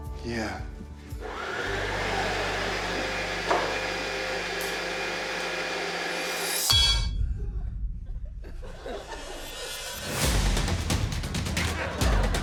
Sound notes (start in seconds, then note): 1.1 mixer whirrs; 6.6 clank!